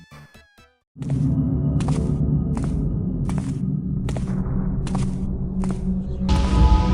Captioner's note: dull hum and soft footsteps